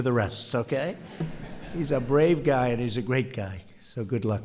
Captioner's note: laughter